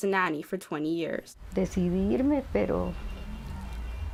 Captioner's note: speaking Spanish